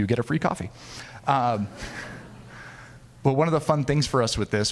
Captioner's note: audience laughing